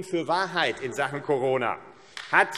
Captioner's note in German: Vereinzelter Beifall AfD